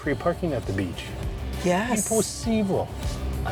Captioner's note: in Portuguese